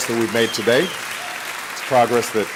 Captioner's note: applause